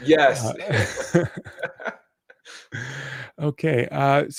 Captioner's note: laughing